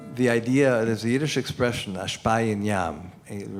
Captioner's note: non-english speech